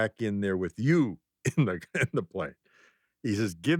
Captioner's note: laughs